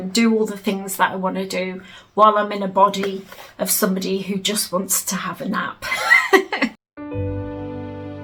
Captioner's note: giggles; relaxing music plays